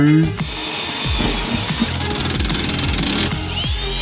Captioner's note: drill whirring